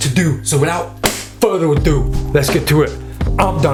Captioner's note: hands clap